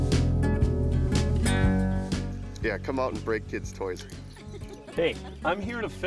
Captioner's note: laughing